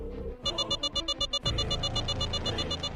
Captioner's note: alarm